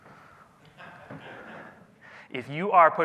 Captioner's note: audience laughs